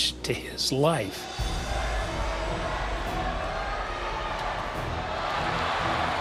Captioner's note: cheering